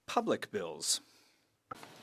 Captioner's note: speaking French